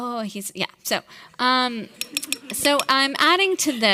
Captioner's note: audience laughing